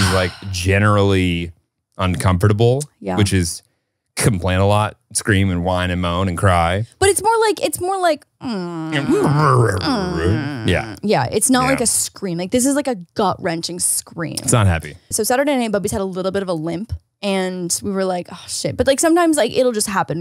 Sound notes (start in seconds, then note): 8.5 moaning